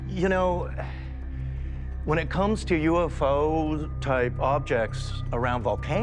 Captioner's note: sighs